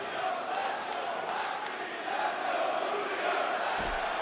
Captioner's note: audience chanting